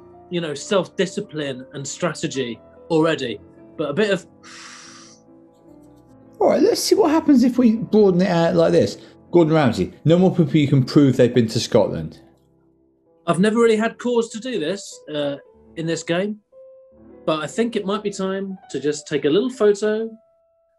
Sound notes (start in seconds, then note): 4.4 inhales